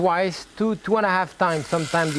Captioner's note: stock sizzles